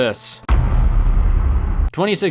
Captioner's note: heavy thud